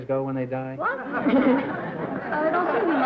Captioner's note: laughter